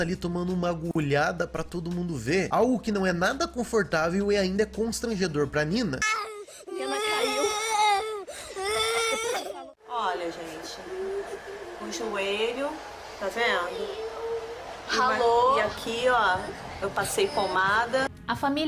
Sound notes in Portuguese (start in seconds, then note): 6.0 choro; 12.6 choro ao fundo; 13.7 voz chorosa